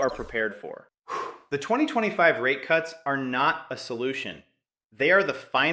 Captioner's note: exhales sharply